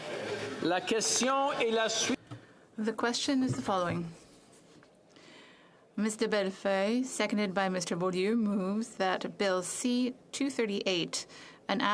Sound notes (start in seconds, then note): 4.2 speaking French